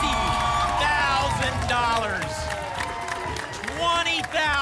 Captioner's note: applause and cheering